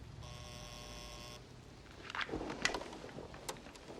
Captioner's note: intercom Buzzing